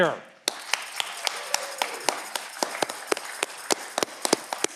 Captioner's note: audience clapping